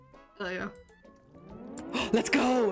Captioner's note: sirens start playing